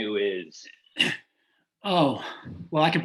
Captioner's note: clears throat